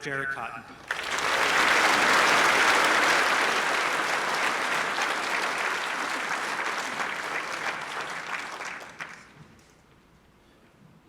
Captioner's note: applause